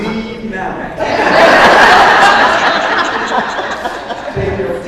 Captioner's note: audience laughs